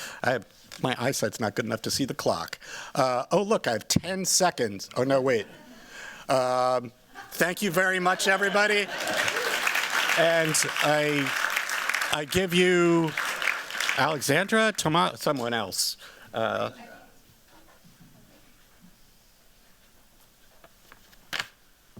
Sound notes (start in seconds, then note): 8.0 applause